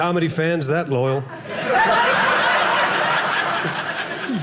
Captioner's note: audience laughing